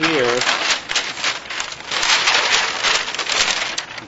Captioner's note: paper rustling